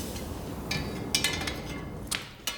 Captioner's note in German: Metallische Laute